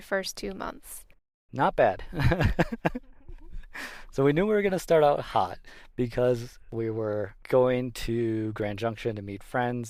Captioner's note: laughs